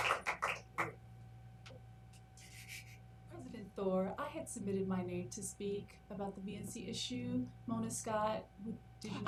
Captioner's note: applause